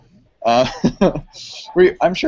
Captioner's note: laughs; someone shushes